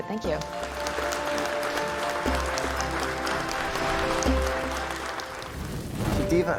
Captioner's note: applause